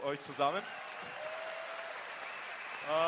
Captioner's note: applause